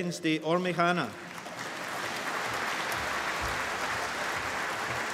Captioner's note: applause